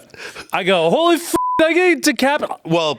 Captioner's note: beep